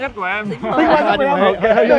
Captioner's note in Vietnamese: Cười